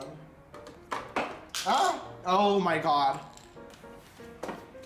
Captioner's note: lipstick clatters to the floor